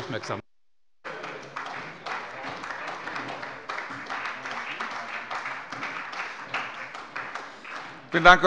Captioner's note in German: Beifall bei der SPD